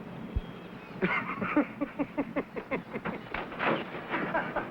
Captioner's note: laughing